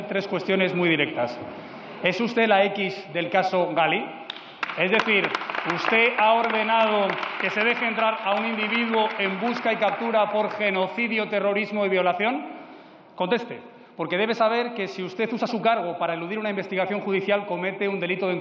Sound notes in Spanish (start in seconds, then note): 4.3 Aplausos